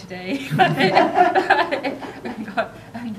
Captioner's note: audience laughter